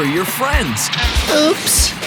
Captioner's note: bonking